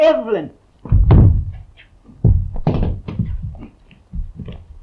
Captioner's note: body thudding